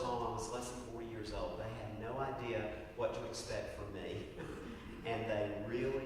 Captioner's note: laugh